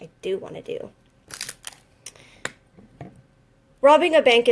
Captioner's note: crinkling